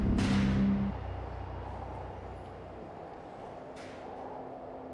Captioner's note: wind howling